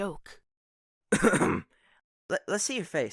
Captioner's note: clears throat